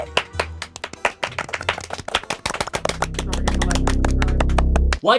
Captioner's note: intense clapping; ominous ambience